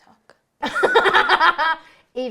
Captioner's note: they laugh